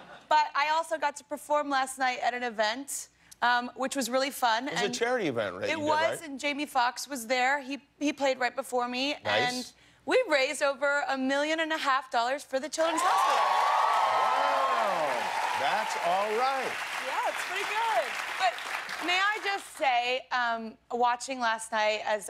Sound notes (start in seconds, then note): 16.3 cheers and applause